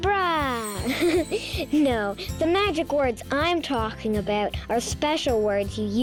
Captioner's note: chuckles